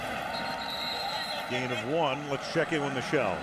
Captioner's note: whistle